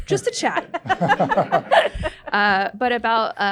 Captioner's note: audience laughter